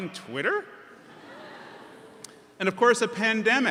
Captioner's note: audience chuckles